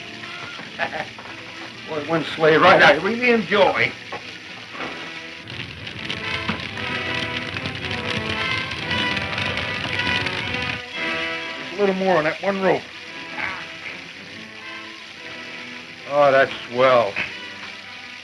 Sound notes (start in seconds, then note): 0.2 bacon sizzling; 0.6 laughing; 5.8 fire crackling; 7.5 intense orchestral music